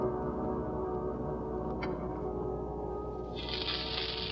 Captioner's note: sizzling